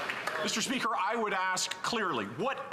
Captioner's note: some Applause